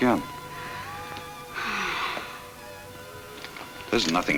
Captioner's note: Ellen sighs